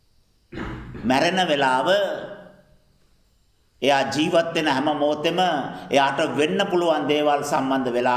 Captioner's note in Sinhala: උගුර කෑරීම